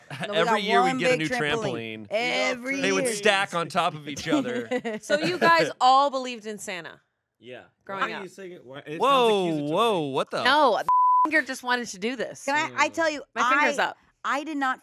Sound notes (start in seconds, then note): 10.8 beep